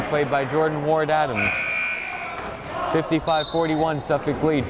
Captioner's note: buzzer blaring